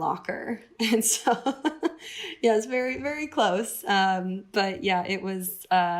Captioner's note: laughter